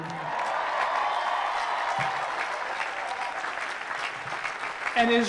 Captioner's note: applause